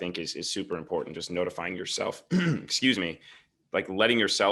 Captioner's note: clears throat